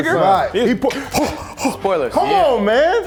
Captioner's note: gasps